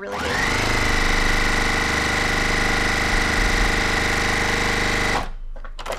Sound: sewing machine hums very rapidly

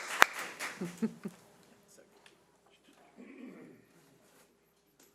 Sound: panel members laughing

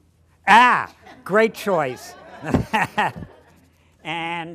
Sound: laughter

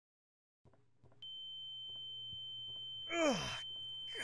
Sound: high-pitched noise

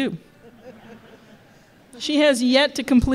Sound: laughter

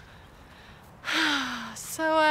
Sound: sighs

